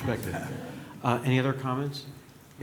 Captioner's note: laughter